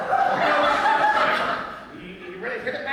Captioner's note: audience laughter